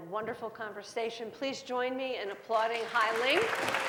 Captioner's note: sound of applause